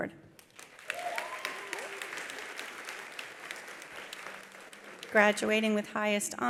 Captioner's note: attendees applauding; attendees cheering